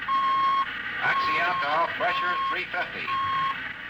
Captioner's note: beeping